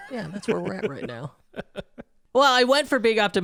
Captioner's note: chuckling